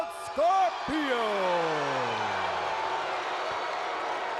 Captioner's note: crowd cheering